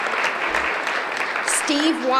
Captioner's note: applause